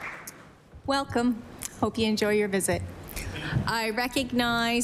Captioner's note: applause